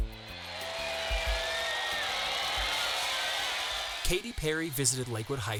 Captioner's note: crowd cheering